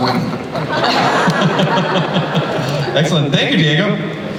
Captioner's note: laughter